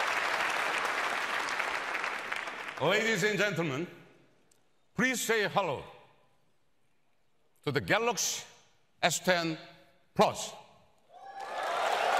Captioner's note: applause